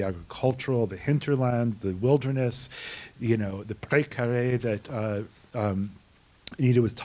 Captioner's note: non-english